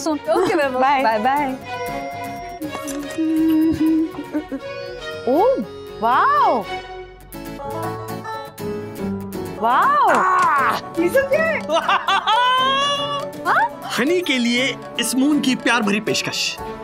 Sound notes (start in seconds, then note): 2.9 humming; 11.4 excitement laugh